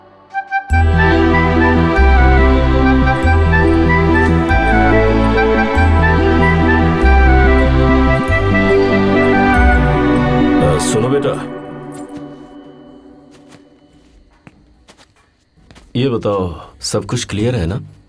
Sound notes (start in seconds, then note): 3.5 anklet tinkling; 13.4 footsteps